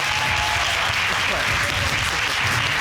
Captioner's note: audience applauding